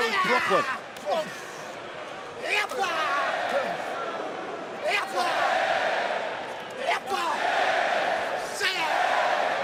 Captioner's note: crowd cheering